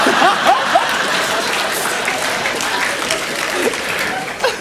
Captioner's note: laughter